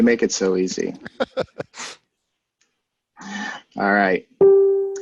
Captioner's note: laughs